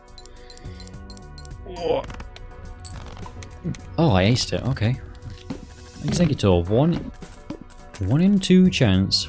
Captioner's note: ooohrrg